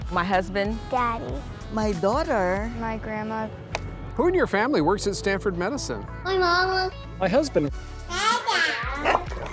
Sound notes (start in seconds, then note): 3.9 clapperboard snapping; 9.3 dog barking